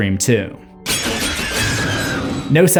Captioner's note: knives slashing and screaming